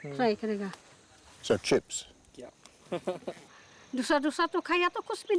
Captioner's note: chuckles